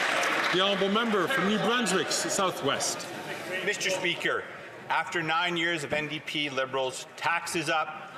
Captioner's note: some Applause